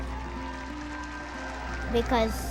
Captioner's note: audience clapping